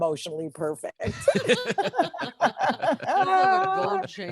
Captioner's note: group laughing